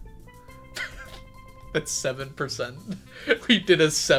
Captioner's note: laughs